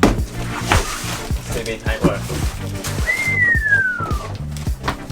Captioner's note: he whistles